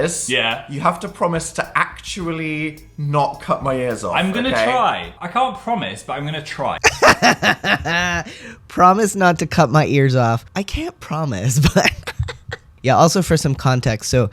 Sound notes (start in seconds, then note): 6.8 laughter; 11.6 laugh